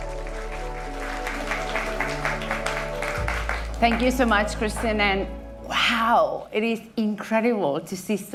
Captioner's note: applause